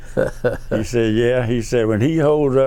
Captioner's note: laughs